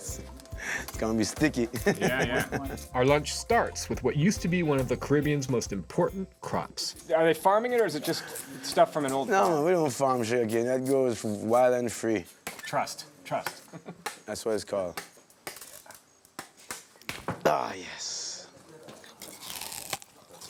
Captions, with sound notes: It's gonna be sticky. - Yeah, yeah. Our lunch starts with what used to be one of the Caribbean's most important crops. Are they farming it, or is it just stuff from an old farm? - No, we don't farm sugar cane. That grows wild and free. - Trust, trust. [chuckles] - That's what it's called. Ah, yes.